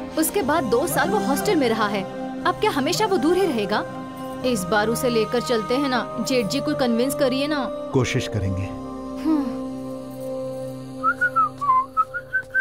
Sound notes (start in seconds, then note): 9.2 sighs; 11.0 whistling